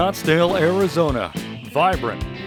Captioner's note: hawk screech